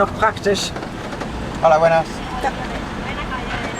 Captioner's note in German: auf Spanisch